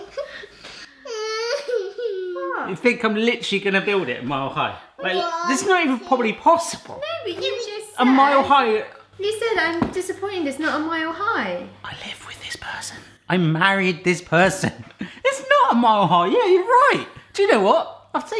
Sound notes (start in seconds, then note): 0.6 laughs